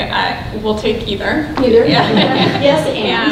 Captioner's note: laughs